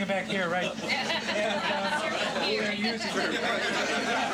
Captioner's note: laughing